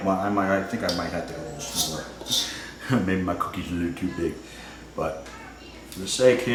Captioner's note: laughs